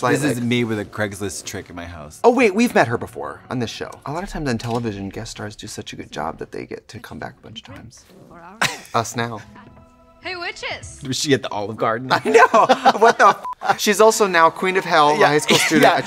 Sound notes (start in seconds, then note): 8.3 laughing; 13.4 beep